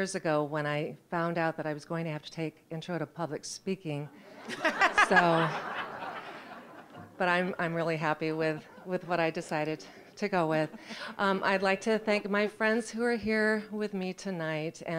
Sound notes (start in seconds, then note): 4.1 audience laughing